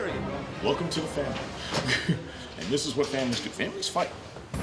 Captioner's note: chuckles